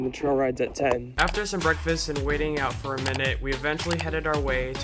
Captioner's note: voiceover